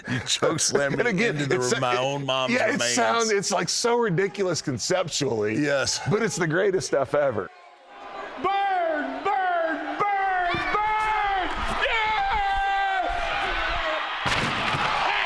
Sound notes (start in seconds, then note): 10.2 screams; 14.2 loud crash